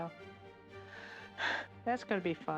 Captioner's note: sigh